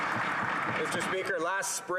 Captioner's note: applause